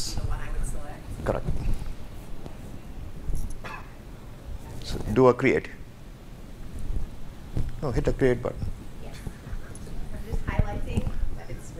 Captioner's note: laughing